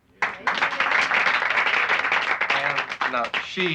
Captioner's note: applauding